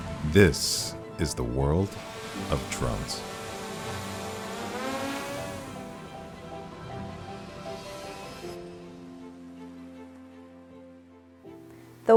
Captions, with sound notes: This is the world of drones. (drone propellers whirring) (dramatic music)